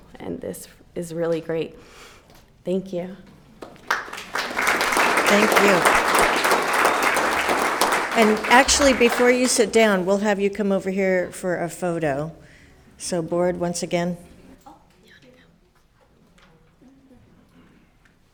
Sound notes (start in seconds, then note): 3.6 all applauding